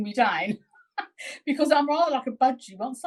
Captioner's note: chuckling